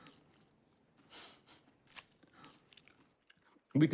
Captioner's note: laughs